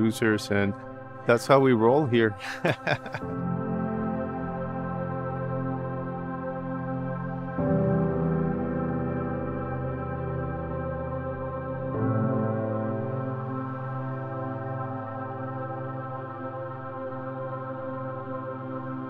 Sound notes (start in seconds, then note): 2.3 chuckles